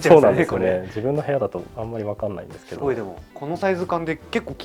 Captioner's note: laughs; laughs